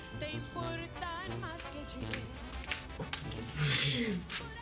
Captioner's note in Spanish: Sollozos